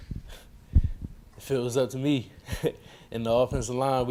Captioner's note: laughing